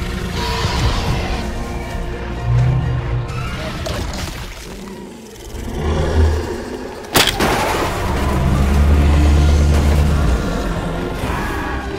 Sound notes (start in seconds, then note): 0.0 apatasaurus growns; 7.1 car crashing sounds